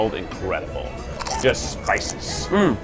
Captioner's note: crunching